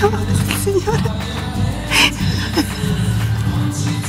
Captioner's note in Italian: risata